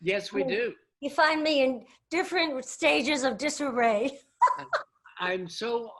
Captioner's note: laughs